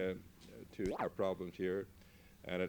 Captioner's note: camera noise